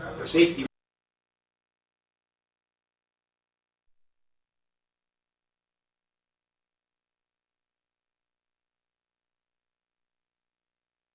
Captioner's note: video and audio cuts off